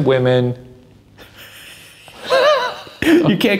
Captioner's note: laughs